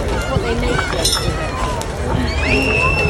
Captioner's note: festival sounds